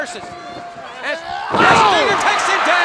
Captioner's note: Sting growling